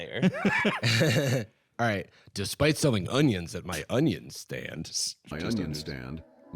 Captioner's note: laughing